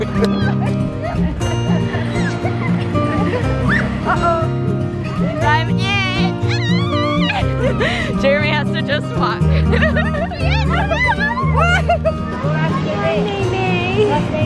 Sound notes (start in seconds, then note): 6.4 squeals; 9.1 laughs